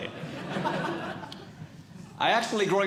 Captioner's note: audience Laughing